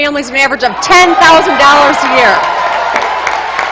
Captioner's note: applause